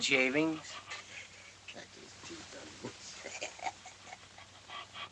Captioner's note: chuckles; Jim Chuckles